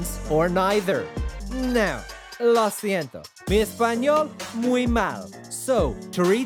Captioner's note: speaks in foreign language